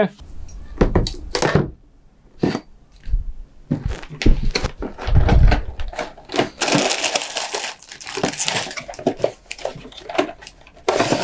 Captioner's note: clattering; metal clanging; plastic bags crunching